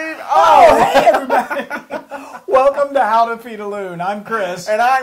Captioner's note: laugh